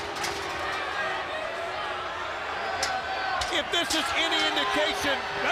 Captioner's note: crowd cheering